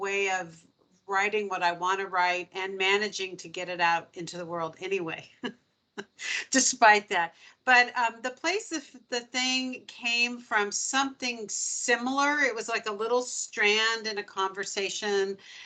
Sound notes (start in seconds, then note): 5.7 laughing